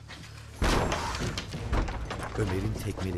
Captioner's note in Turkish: Kapı açılma sesi; Kapı tekmeleme sesi; Ayak sesi; Müzik - Gerilim